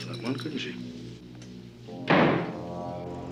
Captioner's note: slam of door